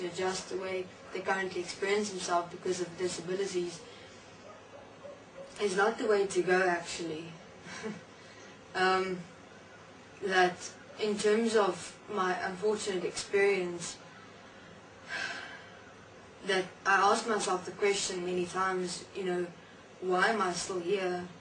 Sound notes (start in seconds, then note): 15.1 sigh